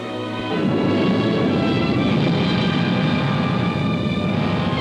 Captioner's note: rocket rumbling